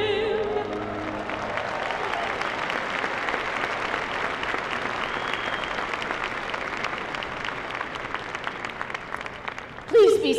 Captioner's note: applause